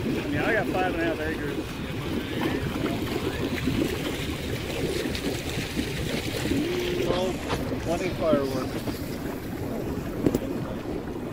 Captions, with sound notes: Yeah, I got five and a half acres. (water burbles) 20 Fireworks.